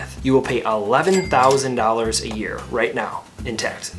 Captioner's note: cash register dings